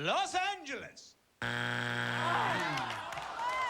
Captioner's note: buzzer